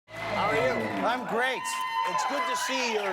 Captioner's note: cheers and applause